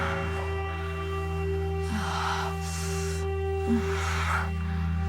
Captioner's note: erotic sighing